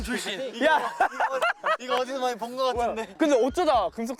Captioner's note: burst out in laughter at such an unexpected experience